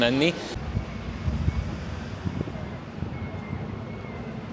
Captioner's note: traffic sound